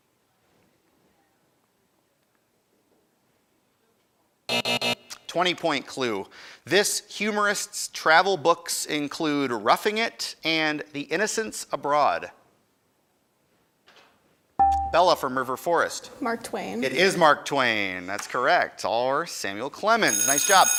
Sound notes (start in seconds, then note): 4.5 end time buzzer rings; 14.0 buzzer dings; 20.0 school bell rings